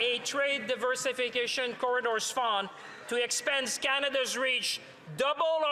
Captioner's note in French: voix de l'interprète